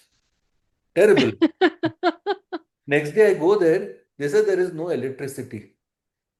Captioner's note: laughter